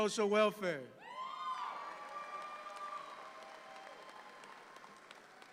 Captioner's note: audience applauds